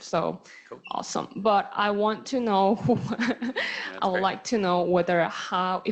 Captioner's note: chuckles